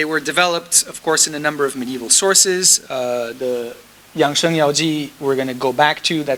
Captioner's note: speaking foreign language